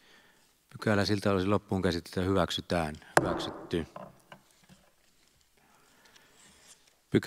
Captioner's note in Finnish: Nuijan kopautus